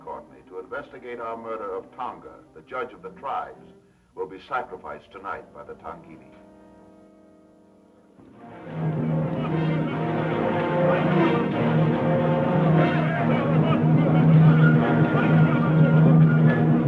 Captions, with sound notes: her uncle, Alan Courtney, to investigate our murder of Tonga, the judge of the tribes, will be sacrificed tonight by the Tongili. (dramatic orchestra music) (people yelling)